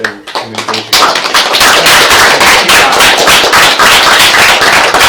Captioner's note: applause